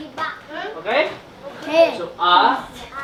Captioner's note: kids In Unison; foreign language